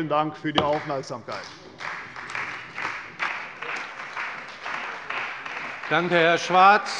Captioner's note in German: Beifall bei der CDU und dem BÜNDNIS 90/DIE GRÜNEN